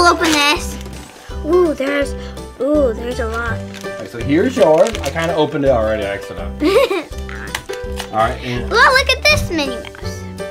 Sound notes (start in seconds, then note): 6.6 assistant laughs